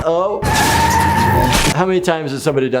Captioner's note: car tires screeching